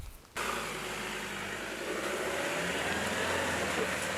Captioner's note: car engine roar